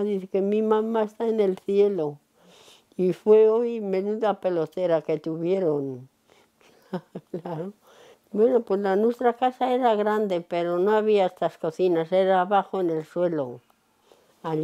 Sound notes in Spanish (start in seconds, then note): 6.7 Ríe